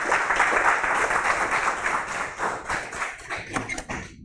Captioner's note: applause